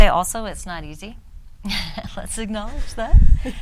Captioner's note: woman laughs